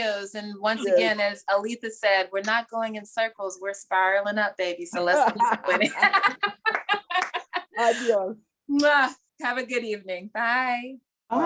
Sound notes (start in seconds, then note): 5.1 chuckling